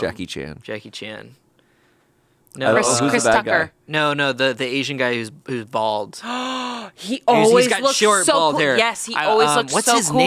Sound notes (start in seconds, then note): 6.2 gasps